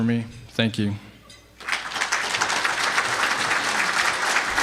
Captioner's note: clapping